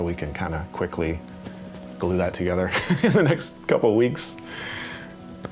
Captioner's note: laughing